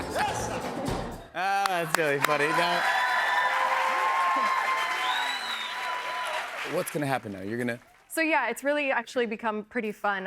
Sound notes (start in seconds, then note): 1.5 cheers and applause